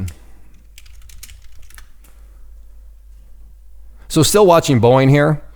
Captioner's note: keyboard clicking